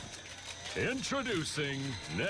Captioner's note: camera shutter sfx